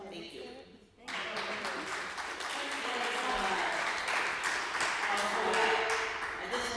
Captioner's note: applause